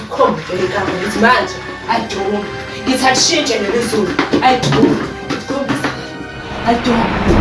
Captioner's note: chanting